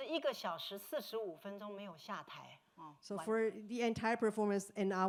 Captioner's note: speaking Mandarin